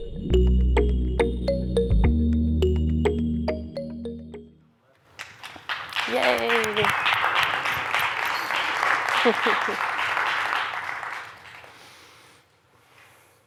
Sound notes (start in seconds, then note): 5.0 applause; 9.1 chuckles